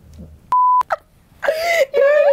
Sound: beeps; laughing

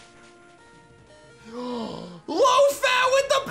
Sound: gasps

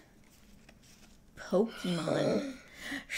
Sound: gasp

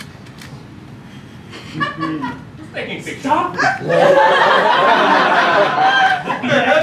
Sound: laughter

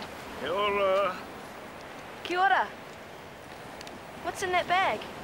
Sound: speaking foreign language

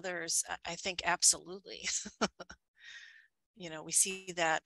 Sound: giggles

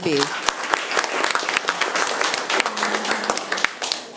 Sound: room applauds

